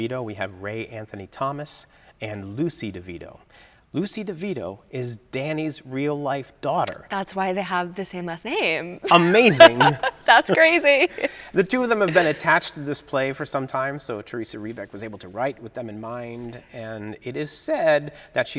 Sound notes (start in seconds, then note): 9.0 laughs